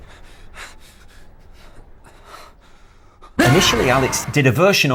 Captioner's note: man panting